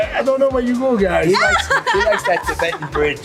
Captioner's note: laughs